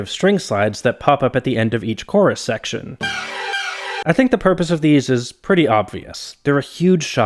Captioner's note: bang